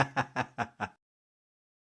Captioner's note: both Laughing